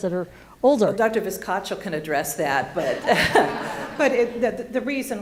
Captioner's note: laughing